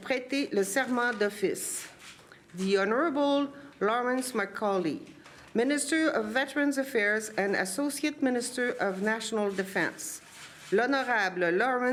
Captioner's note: speaking french